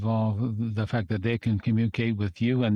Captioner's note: speaking French